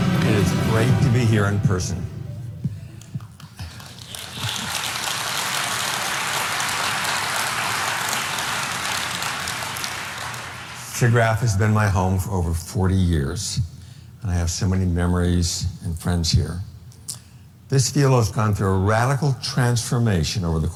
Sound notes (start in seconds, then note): 3.0 audience applauding